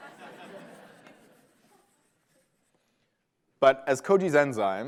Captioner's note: laughter